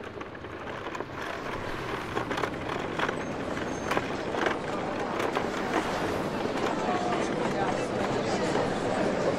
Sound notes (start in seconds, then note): 3.7 clattering; 3.7 crowd chatting